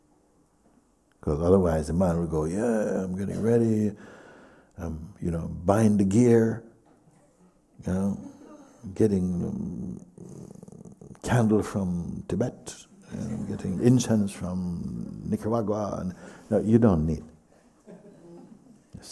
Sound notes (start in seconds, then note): 13.2 laughter